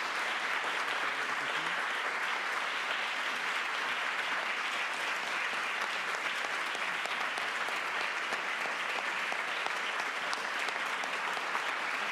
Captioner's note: applause